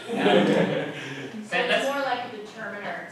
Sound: laughter

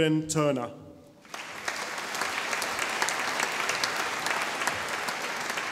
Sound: audience applauding

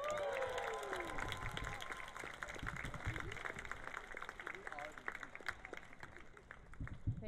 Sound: cheering and Applause

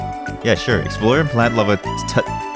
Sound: the stutter kicks in

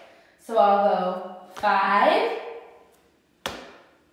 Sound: stamps foot

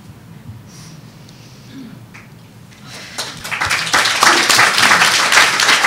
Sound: audience applauding

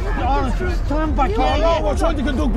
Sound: all chattering

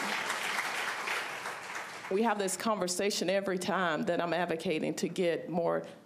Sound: applause

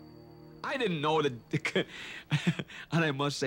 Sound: laughs

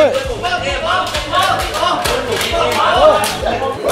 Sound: gunshot continues

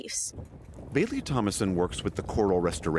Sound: voice-over

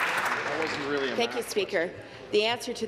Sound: applause

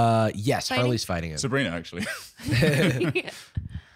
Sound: all laughing

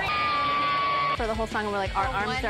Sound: screams of kim and kourtney

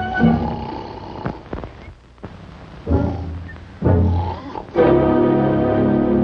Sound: snoring

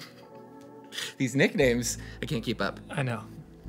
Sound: laughs

